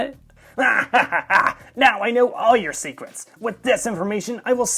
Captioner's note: maniacal laughing